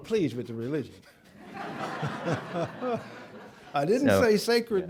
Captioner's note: laughter